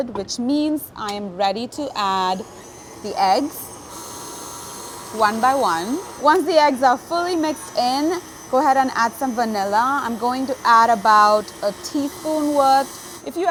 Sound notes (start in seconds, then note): 4.0 mixer whirring